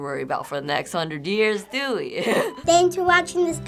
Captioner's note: chuckles